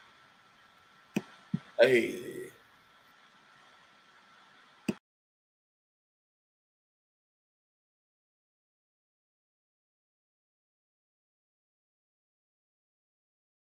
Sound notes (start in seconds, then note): 1.8 groaning